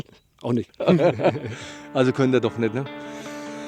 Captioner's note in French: Rires